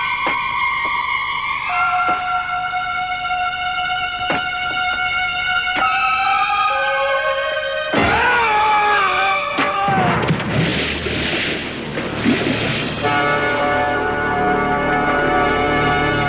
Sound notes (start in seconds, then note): 8.2 Havlock screams